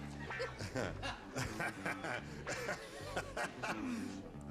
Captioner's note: gene laughing